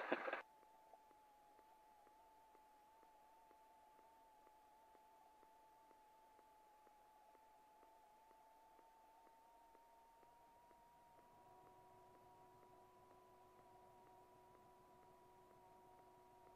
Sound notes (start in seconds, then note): 0.0 Tom chuckles; 4.4 radio silence